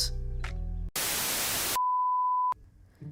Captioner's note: static